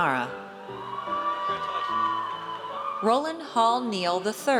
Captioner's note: audience cheers